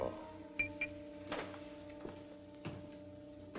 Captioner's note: footsteps approaching